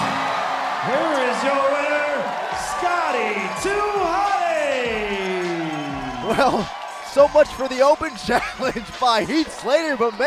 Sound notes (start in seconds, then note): 1.1 bell ringing